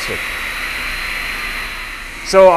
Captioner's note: machine hovering